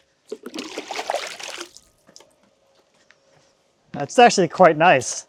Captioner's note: water sloshing